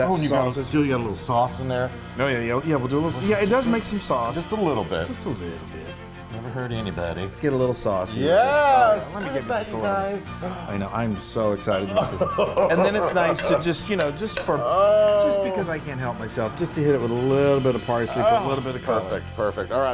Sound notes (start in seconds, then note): 11.9 laughing